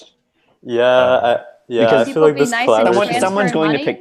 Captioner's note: hubbub